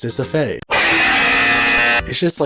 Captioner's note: loud incorrect buzzer